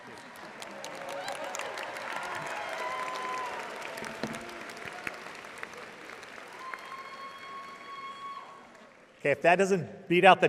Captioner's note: audience applauding